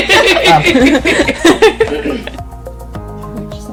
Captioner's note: laughter